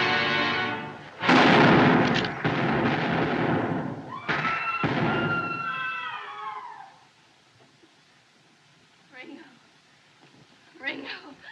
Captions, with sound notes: [ Gunshots ] - [ Women Screaming ] - [ Gunfire Stops ] Ringo. Ringo.